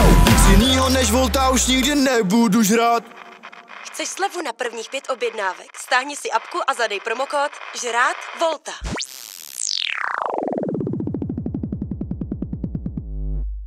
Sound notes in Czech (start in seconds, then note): 3.8 rádio